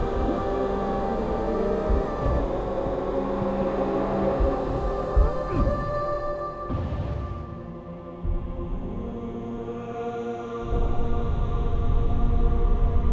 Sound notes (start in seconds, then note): 5.9 grunt